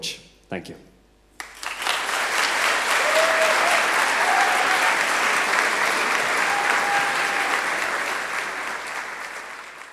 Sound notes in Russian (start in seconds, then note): 1.6 Аплодисменты